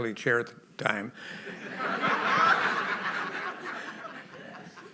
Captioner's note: laughter